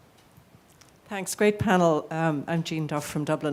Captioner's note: woman's Voice